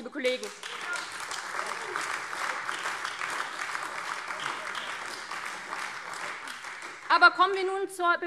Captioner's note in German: Beifall AfD